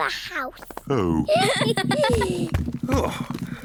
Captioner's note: all giggle